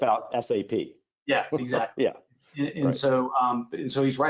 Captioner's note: chuckles